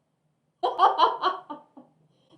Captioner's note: laughter at Vax's expense